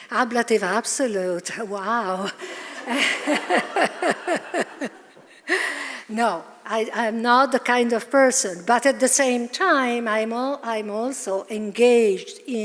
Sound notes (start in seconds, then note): 2.7 audience laughing; 2.8 laughing